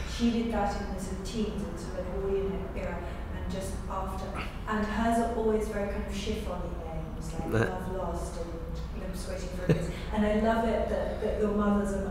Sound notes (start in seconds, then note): 3.1 laughs